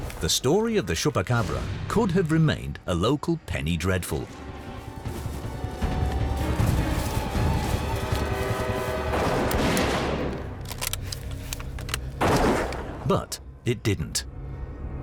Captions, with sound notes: The story of the chupacabra could have remained a local penny dreadful. [gunshots] [gunshot] But it didn't.